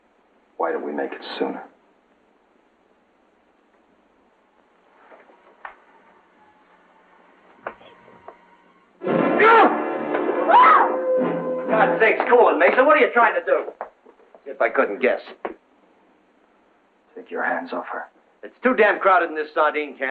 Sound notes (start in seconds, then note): 7.5 Katie grunting; 9.3 Kurt yelling; 10.4 Katie screams